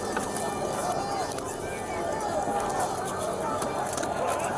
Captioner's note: fighting, scuffling